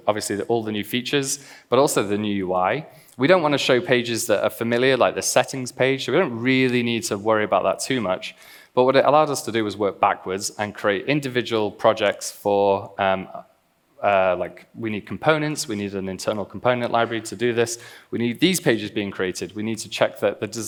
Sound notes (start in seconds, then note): none